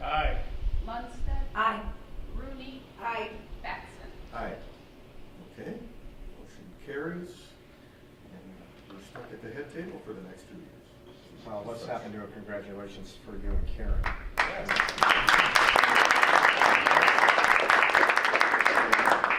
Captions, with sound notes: >>Lundstedt? >>Aye. >>Rooney? >>Aye. >>Batson? >>Aye. >>Okay, motion carries. And you're stuck at the head table for the next two years. So let's hear a congratulations for you and Karen. (clapping)